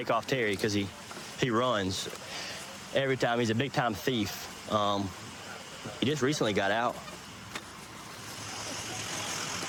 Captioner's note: none